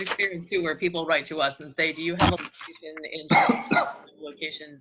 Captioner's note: coughing in the background